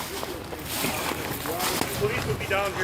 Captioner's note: loud crunching footsteps